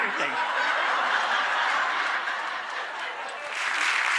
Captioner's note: audience laughing; applause